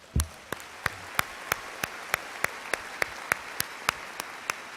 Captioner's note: audience applauds